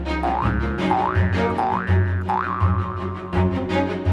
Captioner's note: boing, boing, boing; urgent cello music